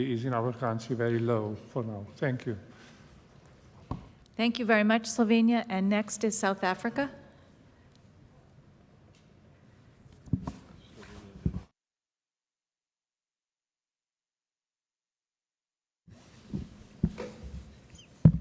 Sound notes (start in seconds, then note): none